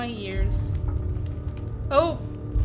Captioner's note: heavy footsteps followed by rumbling; heavy footsteps and rumbling continue